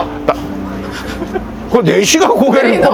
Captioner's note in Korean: 웃음